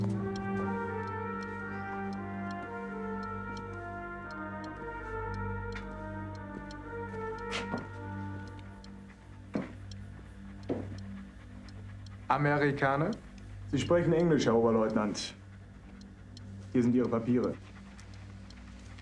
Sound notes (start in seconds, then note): 12.3 speaking german